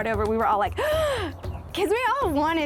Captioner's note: gasps